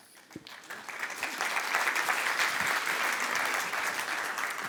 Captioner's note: audience applause